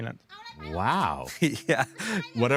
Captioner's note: laughs